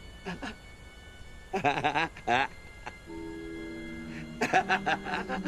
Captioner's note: blind Man laughs